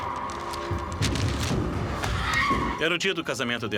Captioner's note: screams